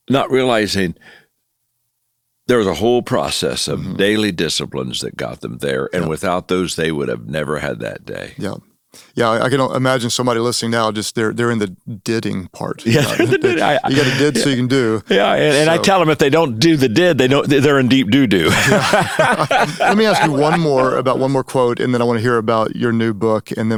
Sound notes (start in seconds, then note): 18.4 laughing